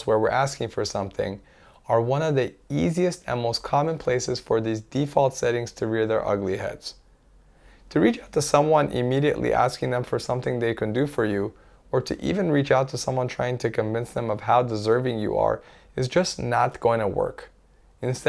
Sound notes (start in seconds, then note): none